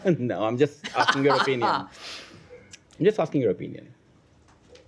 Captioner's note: laughter